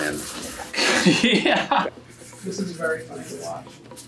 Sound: laughing

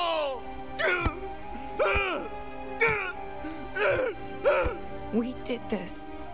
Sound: Barret Sobbing And Punching

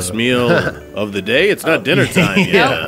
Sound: laughs

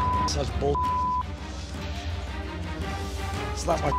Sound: beep

